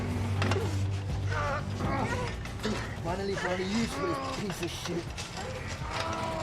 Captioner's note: grunting